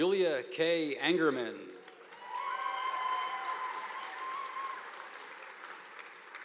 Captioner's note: audience applauding